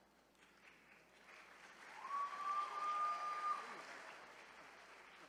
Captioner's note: attendees cheering